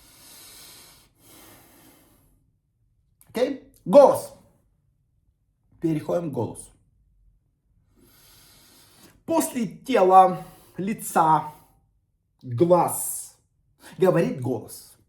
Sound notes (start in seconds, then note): 0.0 inhaling